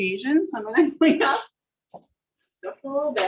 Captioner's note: laughs